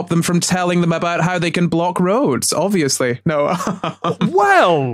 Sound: laughs

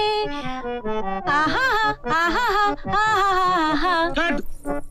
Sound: humming

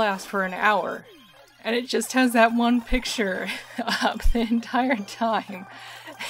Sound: laughing

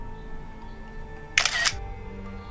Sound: snapshot Click

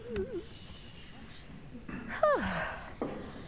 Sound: sighs

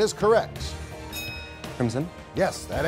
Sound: bell chimes

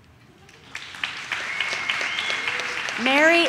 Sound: audience cheers

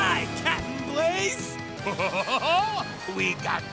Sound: laughing

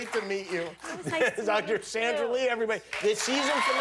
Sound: laughter

